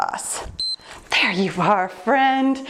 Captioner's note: timer beeps